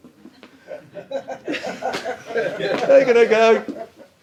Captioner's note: audience laughs